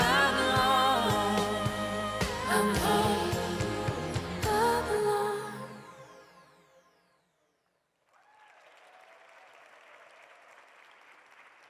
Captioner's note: applause